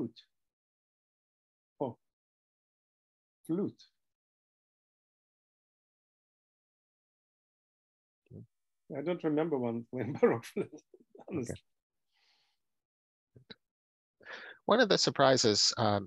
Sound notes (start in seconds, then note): 10.1 laughter